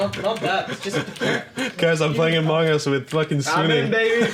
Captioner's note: laughs